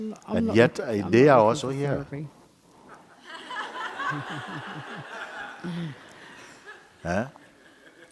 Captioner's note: laughter